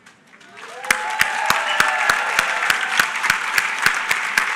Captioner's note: applause